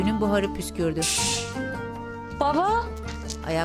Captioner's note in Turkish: Ütü buhar sesi